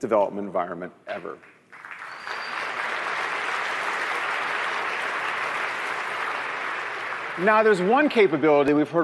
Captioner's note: applause